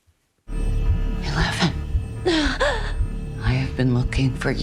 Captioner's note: gasps